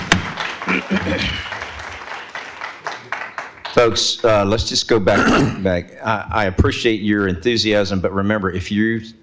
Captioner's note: applause